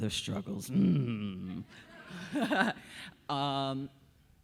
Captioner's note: audience laughing